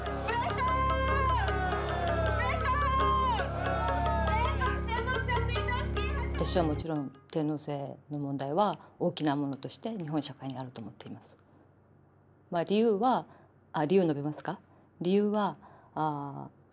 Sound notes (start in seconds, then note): 0.1 people shouting in foreign language; 6.9 speaking in foreign language